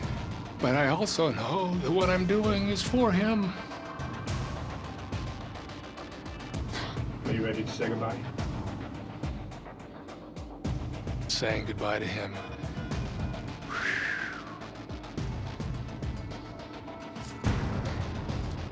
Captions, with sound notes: But I also know that what I'm doing is for him. Saying goodbye to him... [exhales]